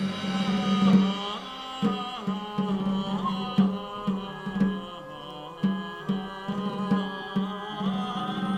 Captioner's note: chanting